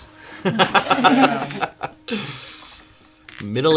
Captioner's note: laughing